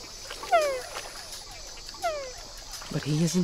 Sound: frog groaning

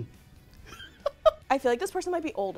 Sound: laughing

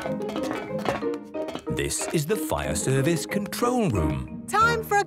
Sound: none

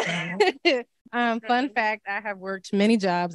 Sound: both laughing

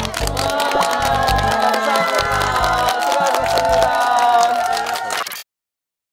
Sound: A round of applause for everyone who's worked hard

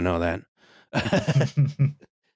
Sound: laughter

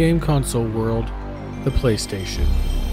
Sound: Sony PlayStation Startup Sound

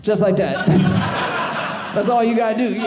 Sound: audience laughing

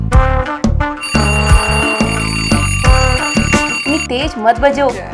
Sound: alarm ringing

